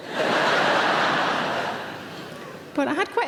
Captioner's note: audience laughs